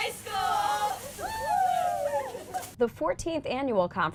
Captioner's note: hooting